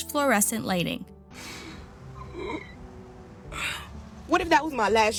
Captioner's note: crying